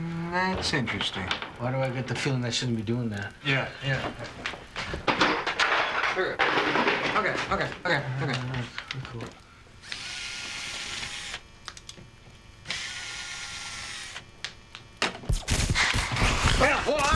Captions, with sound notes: - That's interesting. - Why do I get the feeling that shouldn't be doing that? - Yeah, yeah. Here. Okay, okay, okay, okay. - Cool. (electrical crackling)